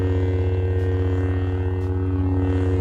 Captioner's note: lightsaber turns on